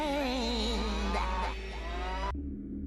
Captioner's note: cow mooing